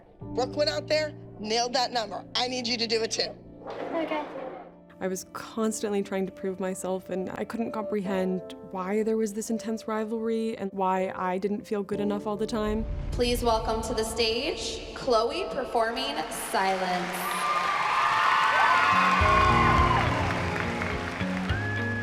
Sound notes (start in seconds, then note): 16.2 cheering; 18.5 mellow instrumental music playing